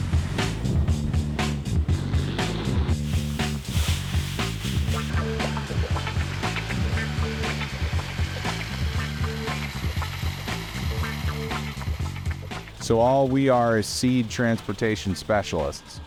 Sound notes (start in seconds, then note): 0.0 plane engine whirring; 0.3 upbeat music continues; 3.0 bag rustling; 4.6 propeller whirs